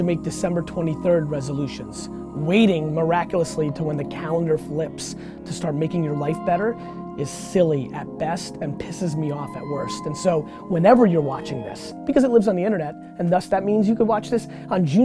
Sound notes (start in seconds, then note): none